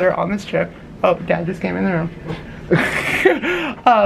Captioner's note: lols